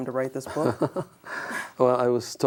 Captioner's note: laughs